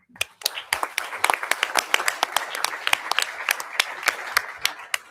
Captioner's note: audience applauding